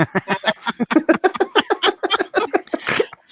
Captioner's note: laughs